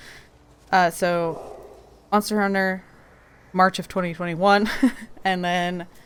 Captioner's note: laughs